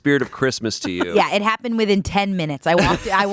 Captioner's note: laughing